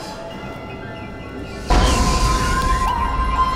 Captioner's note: creature shrieks; screaming